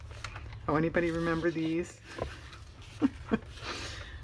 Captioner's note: laughs